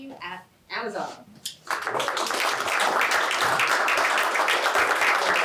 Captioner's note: applause